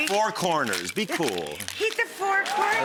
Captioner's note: ice rattles